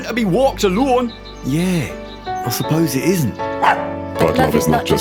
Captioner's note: dog barks